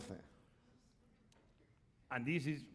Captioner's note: speaking spanish